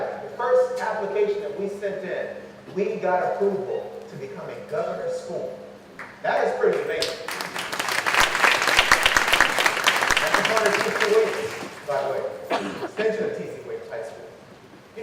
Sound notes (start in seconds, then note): 6.9 clapping